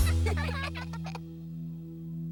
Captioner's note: all giggle